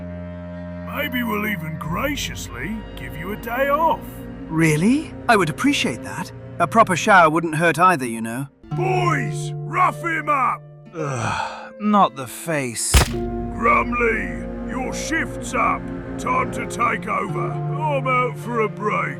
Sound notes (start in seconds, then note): 4.4 excited; 8.5 shouting